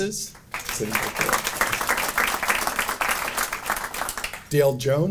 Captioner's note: audience applauding